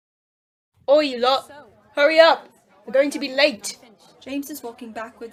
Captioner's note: chattering in background